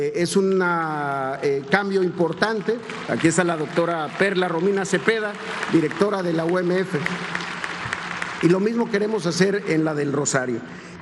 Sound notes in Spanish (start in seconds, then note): 7.2 aplausos